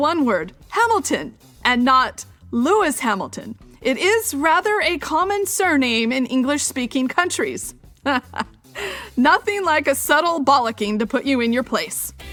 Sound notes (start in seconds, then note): 8.0 laughter